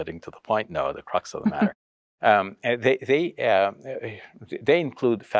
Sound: chuckles

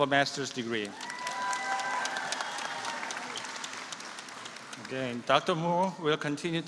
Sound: applause

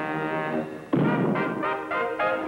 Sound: cannon fires; upbeat triumphant music

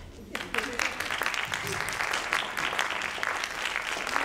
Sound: audience applauding

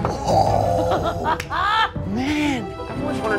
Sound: laughter

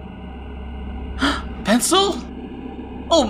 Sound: gasp

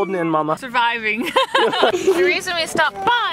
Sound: laughs

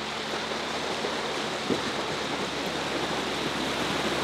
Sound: water rushing

